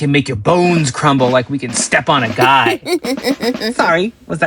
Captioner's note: Terri giggles